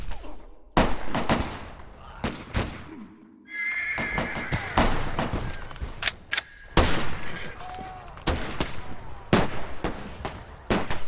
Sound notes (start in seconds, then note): 1.8 groaning; 4.7 gunshots